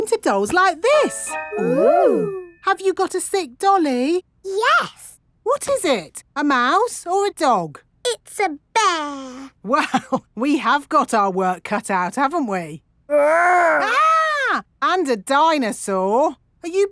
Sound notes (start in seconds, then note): 9.9 chuckling; 13.4 mock screaming